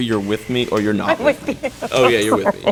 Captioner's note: laughing